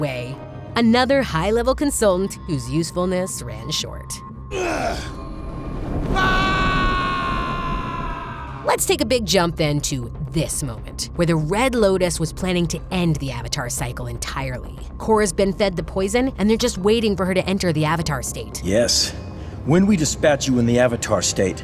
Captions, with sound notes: another high level consultant whose usefulness ran short. [grunting] [screaming] Let's take a big jump in to this moment where the Red Lotus was planning to end the Avatar Cycle entirely. Korra's been fed the poison, and they're just waiting for her to enter the Avatar State. Yes. When we dispatch you in the Avatar State,